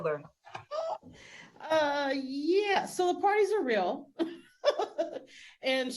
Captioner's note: laughing